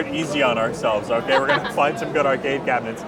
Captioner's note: laughs